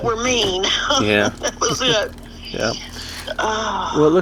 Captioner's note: laughs